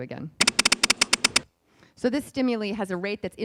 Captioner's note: beeping